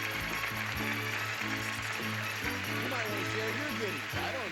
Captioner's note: audience applauding